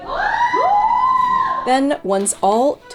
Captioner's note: people cheering